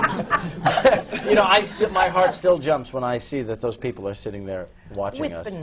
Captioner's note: laughter